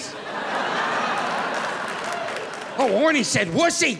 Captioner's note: audience laughing